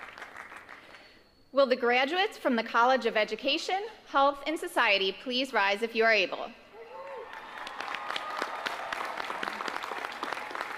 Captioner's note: applause